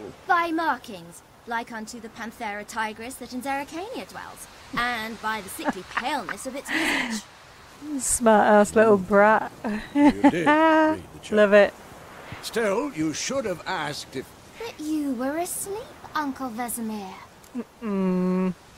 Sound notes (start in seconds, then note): 9.6 laughing